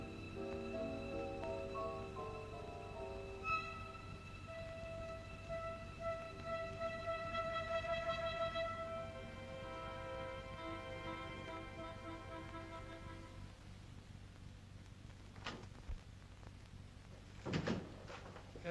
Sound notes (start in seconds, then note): 0.0 soft ominous music; 15.2 door opens; 17.4 door closes